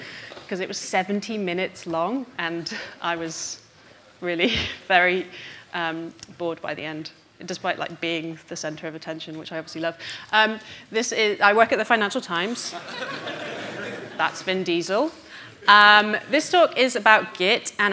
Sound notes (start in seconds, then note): 12.6 audience laughing